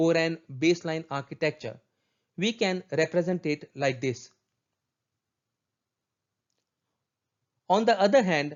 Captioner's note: click